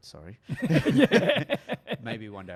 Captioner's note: laughs